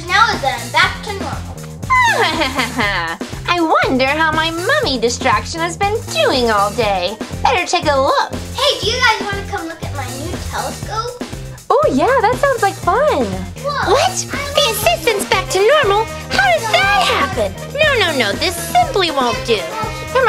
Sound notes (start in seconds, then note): 1.8 evil laughing